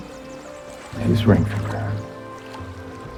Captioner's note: voiceover